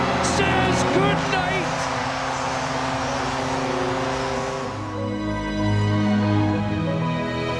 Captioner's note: applause